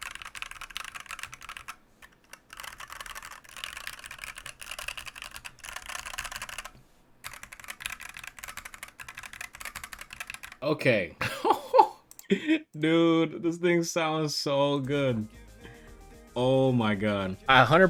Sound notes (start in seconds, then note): 11.2 chuckles